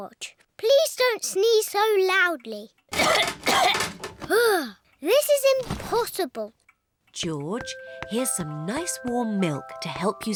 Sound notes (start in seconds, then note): 2.9 coughs